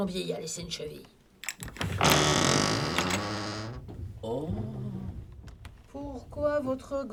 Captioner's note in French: porte qui grince